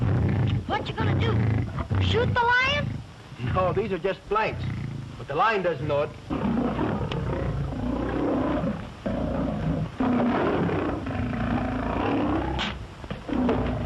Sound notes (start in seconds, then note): 9.4 roaring